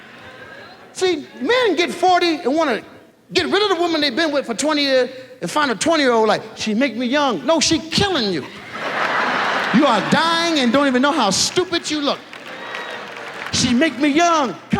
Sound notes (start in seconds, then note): 8.4 audience laughs